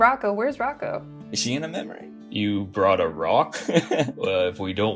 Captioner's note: laughs